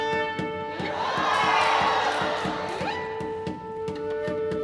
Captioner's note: crowd cheering; bouncy music